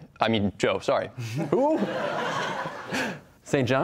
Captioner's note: laughter